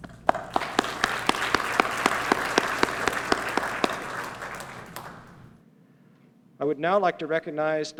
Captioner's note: applause